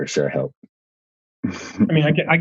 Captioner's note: laughs